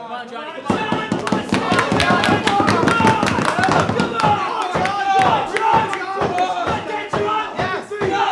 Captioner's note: audience cheering